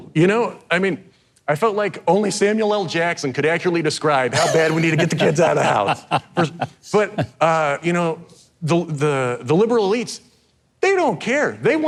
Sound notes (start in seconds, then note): 6.6 host laughing